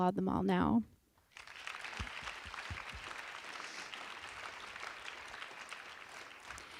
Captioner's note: audience applause